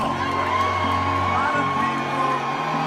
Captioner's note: applause